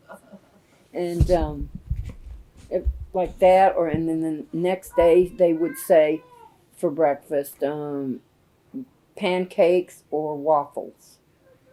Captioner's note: laughter